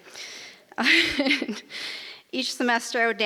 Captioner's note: laughs